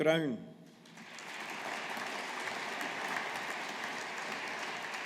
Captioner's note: audience applauding